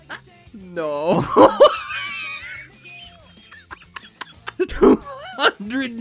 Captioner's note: wheezes